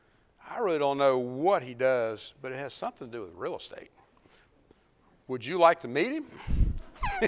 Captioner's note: laughs